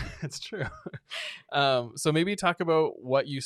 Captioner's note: both laughing